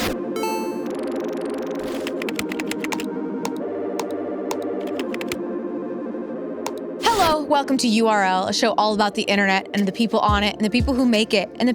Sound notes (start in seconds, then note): 0.2 soft ambient music; 3.0 ambient music continues; 4.5 keyboard tapping